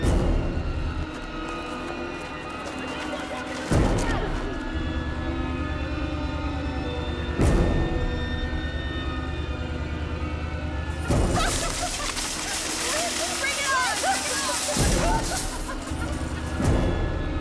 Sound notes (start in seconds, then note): 11.1 laughs